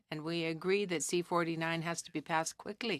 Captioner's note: speaking French